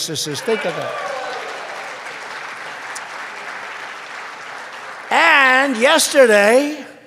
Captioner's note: applause